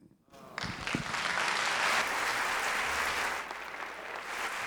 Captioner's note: applause